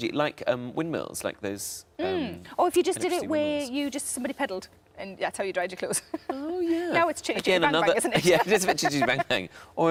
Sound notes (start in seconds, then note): 8.2 laughs